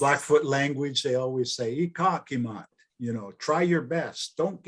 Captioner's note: speaking in foreign language